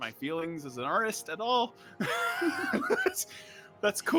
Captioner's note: laughs